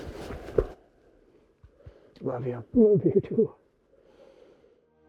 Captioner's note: arms thumping